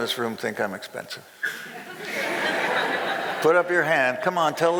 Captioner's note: crowd laughing